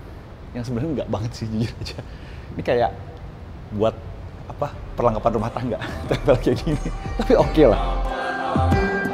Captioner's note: laughing